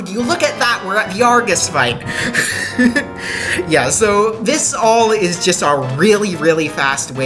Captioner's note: laughing